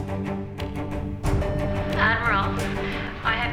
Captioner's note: intercom beeps